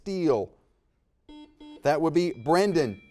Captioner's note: buzzer dings